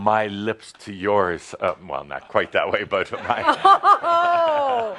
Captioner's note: laughter